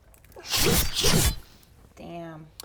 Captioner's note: slice slice